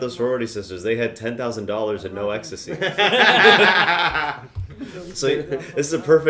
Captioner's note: laughter